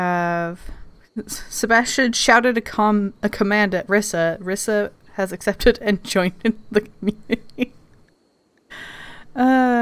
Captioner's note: laughing